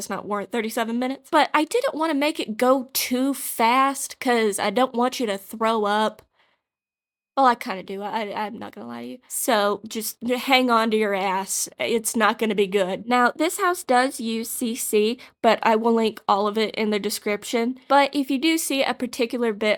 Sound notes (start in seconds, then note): 6.2 awkward Silence